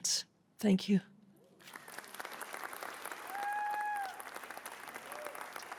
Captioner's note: cheering